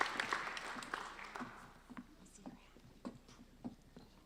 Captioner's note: applauding